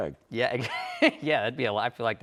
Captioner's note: laughs